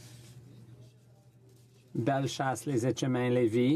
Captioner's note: speaking French